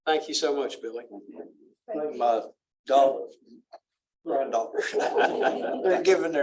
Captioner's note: laughter